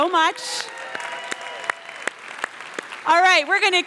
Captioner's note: cheers and applause